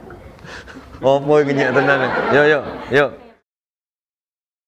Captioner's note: background Chatter